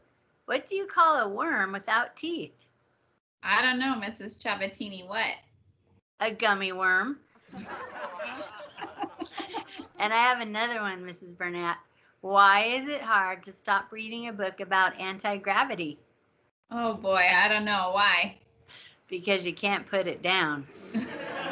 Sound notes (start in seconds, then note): 7.4 laughter; 20.7 laughter